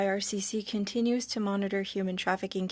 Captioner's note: speaking French